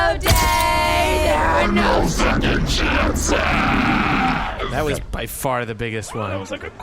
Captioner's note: distorted demonic voice